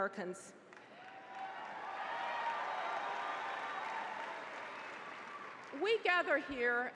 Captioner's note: applause